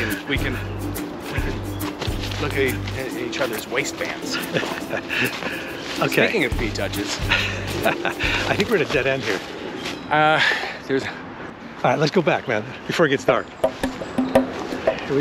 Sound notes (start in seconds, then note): 7.0 laughs; 13.9 upbeat music